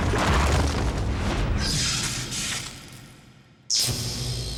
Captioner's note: explosion; electrical zapping